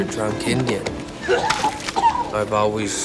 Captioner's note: vomiting